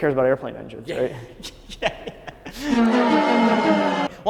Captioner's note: laughs